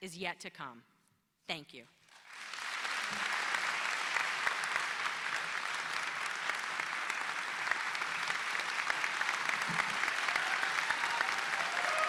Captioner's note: applause